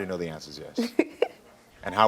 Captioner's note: laughing